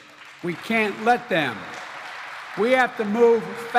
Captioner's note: applause